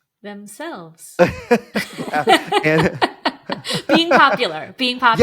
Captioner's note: laughing